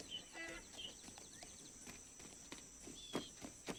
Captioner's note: braying